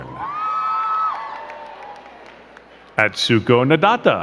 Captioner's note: crowd cheering and clapping